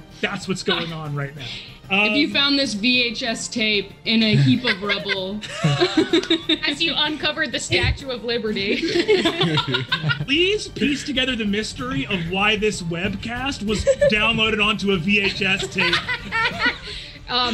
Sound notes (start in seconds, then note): 4.2 laughing; 8.6 group laughs; 15.9 group laughs